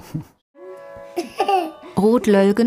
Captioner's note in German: Kinderlachen